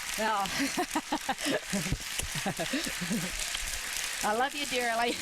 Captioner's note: laughter